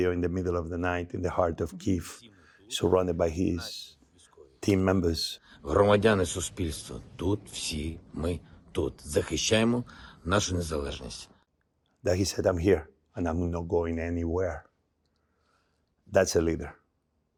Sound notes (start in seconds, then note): 5.9 Volodymyr speaks in foreign language